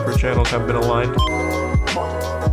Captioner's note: Game Boy startup